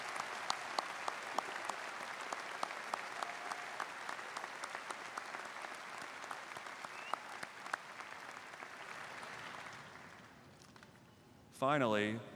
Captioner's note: applause